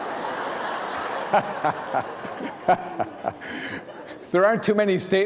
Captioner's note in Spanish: risas